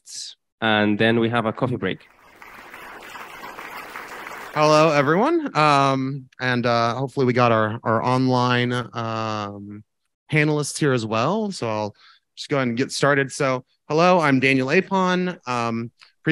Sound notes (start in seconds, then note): 1.9 crowd clapping